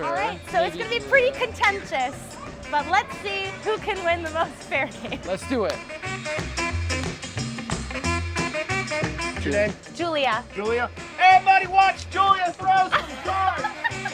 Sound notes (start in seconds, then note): 4.6 laughing; 5.6 hands clapping